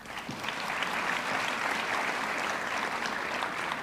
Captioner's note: audience clapping